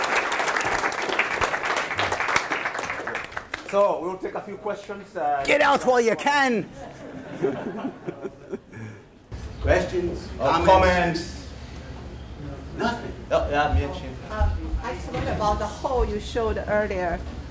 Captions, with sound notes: -So we'll take a few questions... -Get out while you can! [ Laughter ] Questions? Comments? -Comments? -Nothing? -Oh, yeah. -Um, I just wondered about the hole you showed earlier.